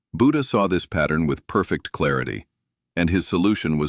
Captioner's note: thoughtful